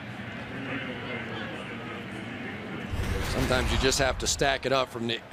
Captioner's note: pa announcement